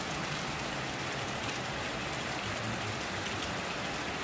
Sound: rain Sounds

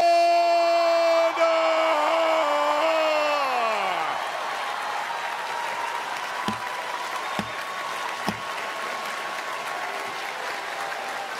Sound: cheers and applause

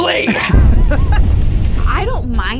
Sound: laughs; explosion echoes

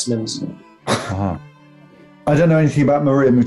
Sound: chuckling

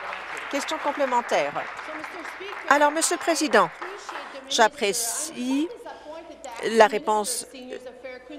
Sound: applause

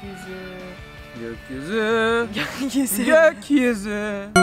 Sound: gasps with laughter

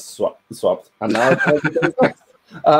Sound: laughs

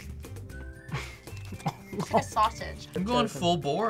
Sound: laughs

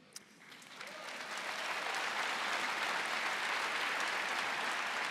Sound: audience applauding

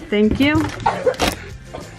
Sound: laughing

